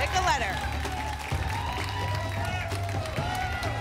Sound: applause and cheering cont

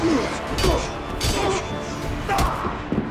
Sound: grunts

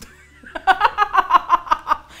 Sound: laughs

